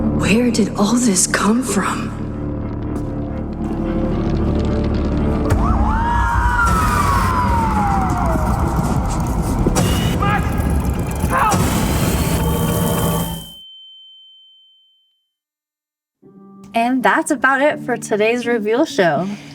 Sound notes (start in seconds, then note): 5.5 sirens wailing and people screaming